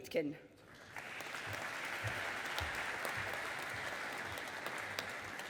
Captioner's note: audience applauding